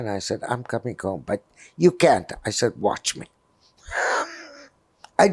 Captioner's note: laughing